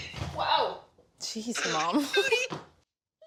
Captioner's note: laughs; woman laughs